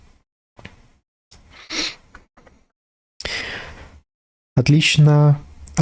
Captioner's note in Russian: фыркает